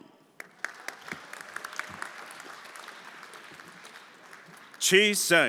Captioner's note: everyone applauding